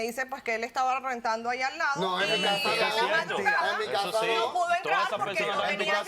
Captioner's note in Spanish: Hablan al unísono